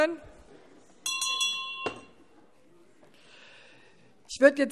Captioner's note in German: Anhaltende Unruhe - Glockenzeichen